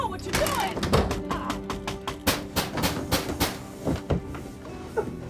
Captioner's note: fists pounding